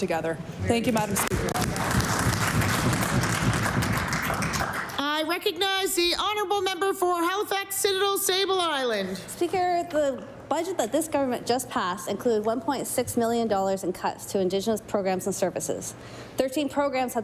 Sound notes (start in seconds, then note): 4.6 applause